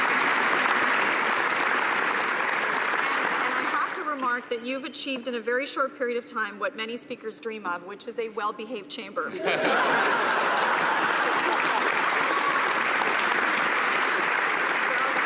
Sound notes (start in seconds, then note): 2.2 applause; 14.5 laughter